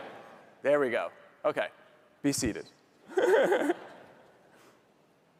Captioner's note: laughs